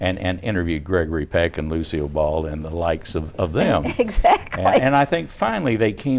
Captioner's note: laughing